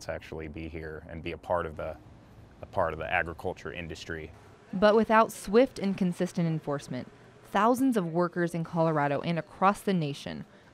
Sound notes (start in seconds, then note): 4.9 voiceover